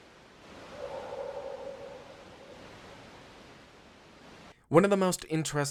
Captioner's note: creature continues roaring